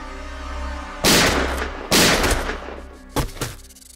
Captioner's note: Gun shots